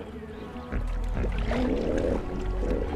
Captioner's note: hippos calling; animals calling